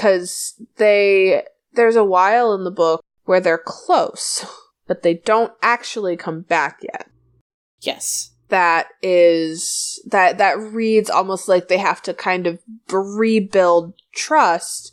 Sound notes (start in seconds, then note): none